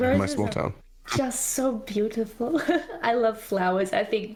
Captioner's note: laughs